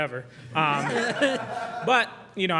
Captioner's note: laughing